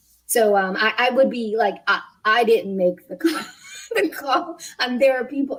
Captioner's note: laughs